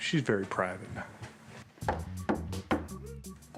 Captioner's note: knocks on door